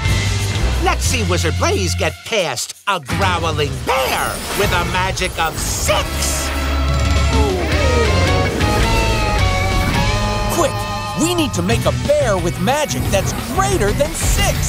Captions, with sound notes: Let's see Wizard Blaze get past a growling bear with a magic of six! [growling] Quick! We need to make a bear with magic that's greater than six!